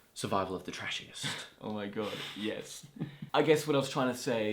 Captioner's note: laughs